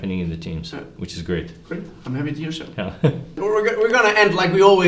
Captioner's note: murmurs